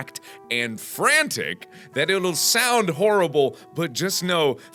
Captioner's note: none